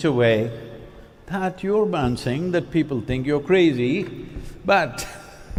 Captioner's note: few laugh